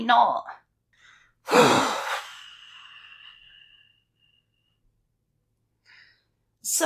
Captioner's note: deep Sigh